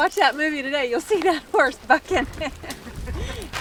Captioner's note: laughing